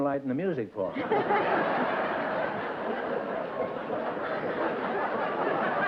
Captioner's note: laughter